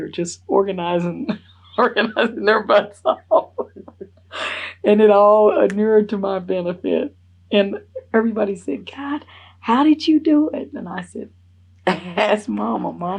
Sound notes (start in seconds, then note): 1.8 laughs